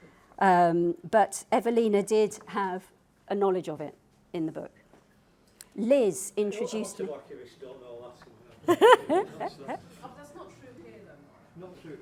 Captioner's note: background chatter